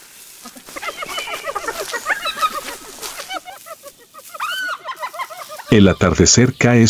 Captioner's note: laughs